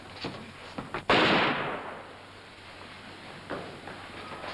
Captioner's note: gunfire pops